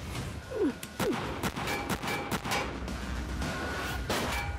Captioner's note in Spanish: continúa la balacera